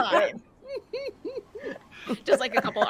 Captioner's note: people laughing